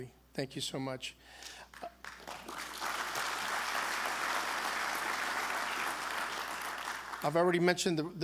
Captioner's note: applause